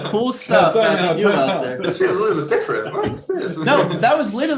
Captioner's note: murmurs